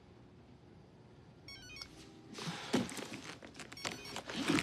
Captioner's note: cell phone chiming